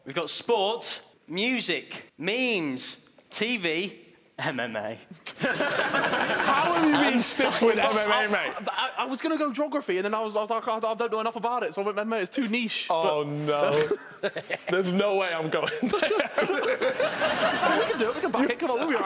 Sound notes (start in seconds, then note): 5.2 laughing; 13.8 chuckling; 15.6 laughing